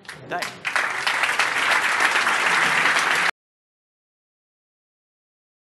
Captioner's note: applause